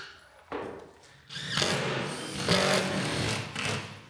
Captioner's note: whirring continues